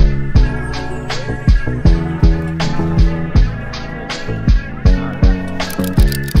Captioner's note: men chattering indistinctly